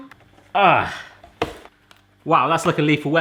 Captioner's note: grunting